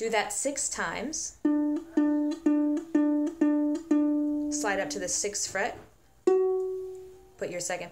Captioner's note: plucks